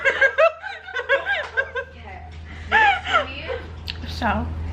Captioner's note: laughs; laughter